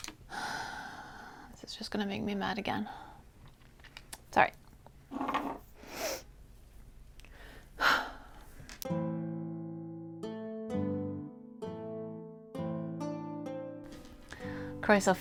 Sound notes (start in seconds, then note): 7.2 deep, bracing breath